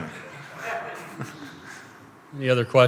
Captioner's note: laughter